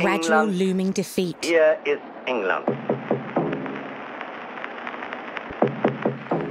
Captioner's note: speaking foreign language